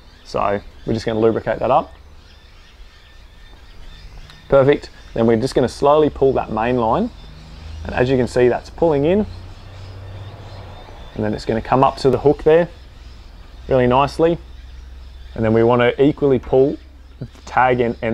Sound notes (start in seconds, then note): 2.5 birds chirping